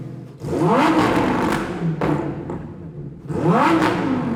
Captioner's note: car revs